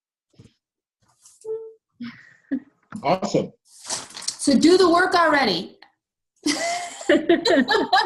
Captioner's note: all laugh